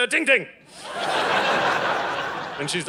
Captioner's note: audience laughing